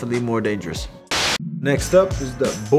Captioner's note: static crackles